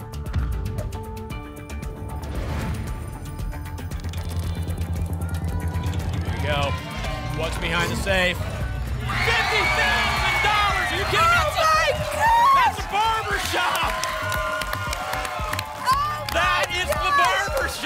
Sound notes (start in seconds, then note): 0.2 thump; 2.2 whoosh; 3.9 clicks; 14.7 applause and cheering